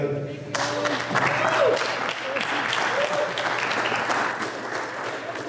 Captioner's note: applause